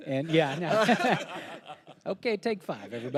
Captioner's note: panelists laughing; laughing